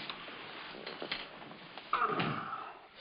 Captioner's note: grunts